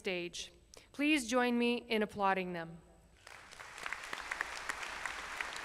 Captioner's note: applause